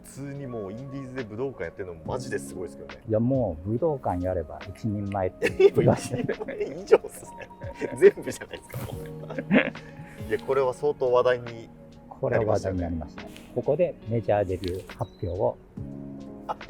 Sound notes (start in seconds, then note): 9.2 laughing